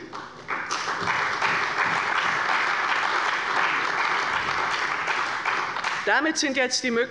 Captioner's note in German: Beifall bei der CDU und dem BÜNDNIS 90/DIE GRÜNEN